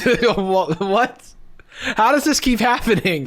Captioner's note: laughing